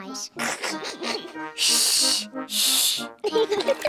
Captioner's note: both laugh; giggles